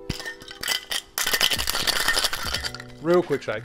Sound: ice clattering

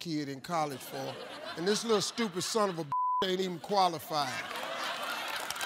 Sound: beep; beep; audience laughs and applauds

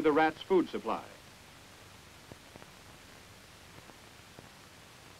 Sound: silence

